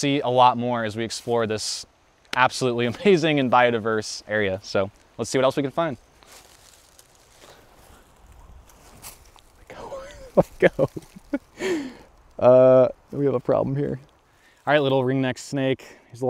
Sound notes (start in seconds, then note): 9.8 laughing